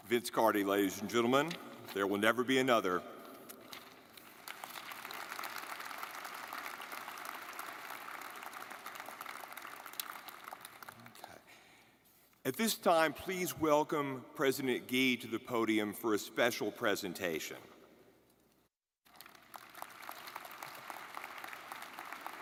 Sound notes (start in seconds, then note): 4.2 audience clapping; 19.0 audience clapping